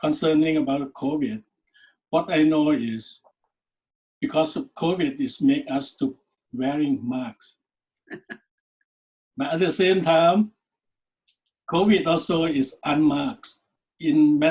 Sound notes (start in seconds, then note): 8.1 laughs